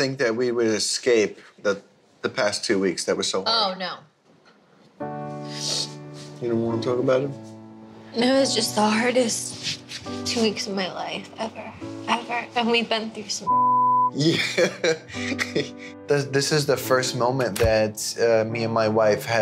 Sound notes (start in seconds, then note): 5.2 calm music; 13.4 beep; 14.1 man laughs